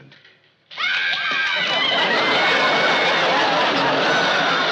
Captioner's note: yelling, screaming, loud chatter